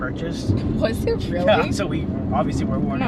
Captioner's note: laughs